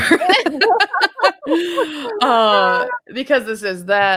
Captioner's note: laughs